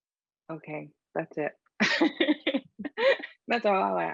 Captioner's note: laughing